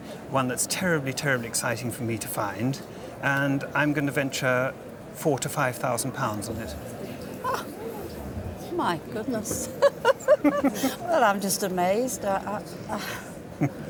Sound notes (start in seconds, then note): 9.6 laughs